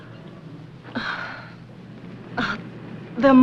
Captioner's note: sighs